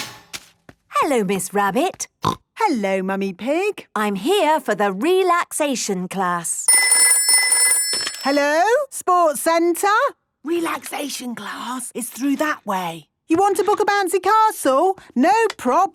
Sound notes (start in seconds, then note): 1.5 snorting; 6.6 phone ringing